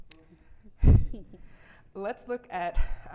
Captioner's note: audience chuckling